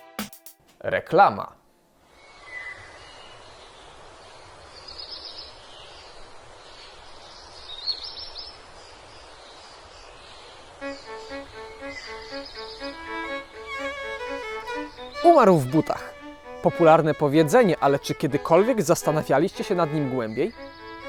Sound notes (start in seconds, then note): 2.1 birds; 10.9 classical music